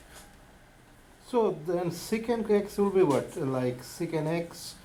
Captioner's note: voiceover